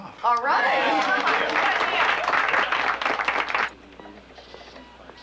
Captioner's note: applauding